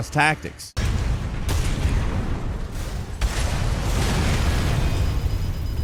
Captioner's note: loud blasts and explosions